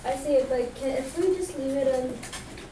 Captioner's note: voiceover